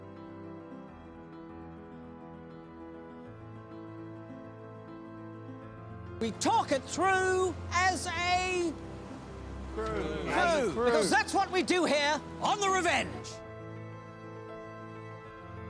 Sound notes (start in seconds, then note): 10.0 hesitantly